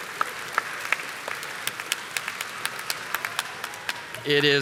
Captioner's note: audience applauding